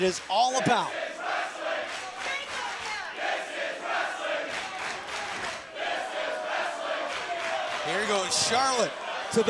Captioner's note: crowd cheering